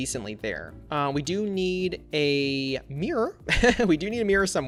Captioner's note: laughs